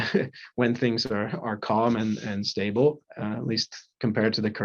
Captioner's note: chuckles